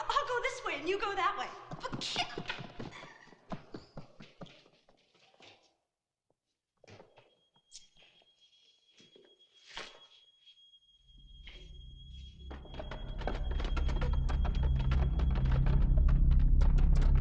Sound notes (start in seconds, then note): 7.7 furniture rattling; 7.7 suspenseful music; 14.4 ominous music